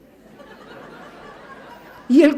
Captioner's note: laughs